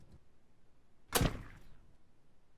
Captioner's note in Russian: Плюх